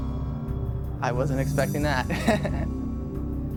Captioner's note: laughing